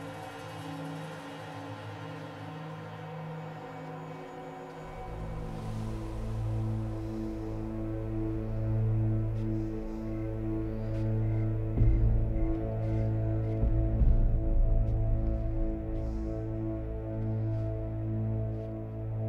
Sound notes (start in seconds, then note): 4.6 dramatic music; 10.8 crickets chirping